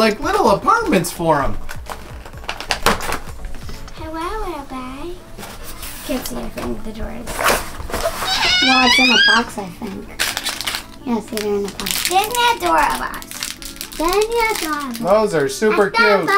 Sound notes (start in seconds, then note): 7.9 squeals